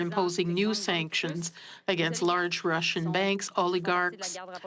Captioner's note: speaking French